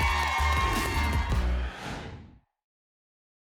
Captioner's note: whoosh